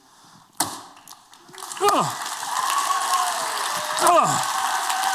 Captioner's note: applause